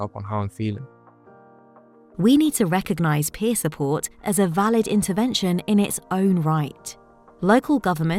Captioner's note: automated Narration